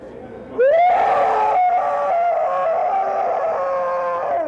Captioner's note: screams